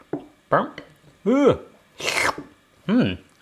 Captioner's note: slurps